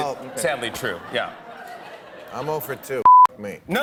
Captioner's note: laughter